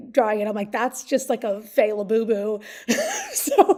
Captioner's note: laughs